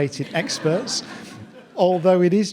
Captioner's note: audience laughing